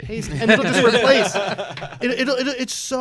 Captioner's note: laughter